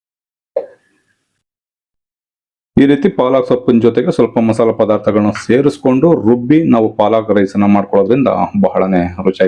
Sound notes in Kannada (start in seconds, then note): 0.6 ಗಂಟಲು ಸರಿಮಾಡಿಕೊಳ್ಳುವಿಕೆ